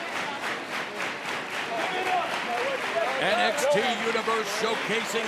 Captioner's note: clapping